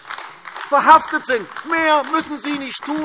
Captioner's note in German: Beifall AfD